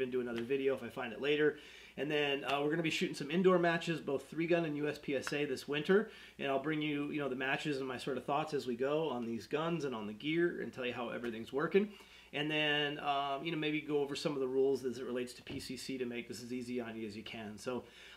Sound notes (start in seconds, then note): none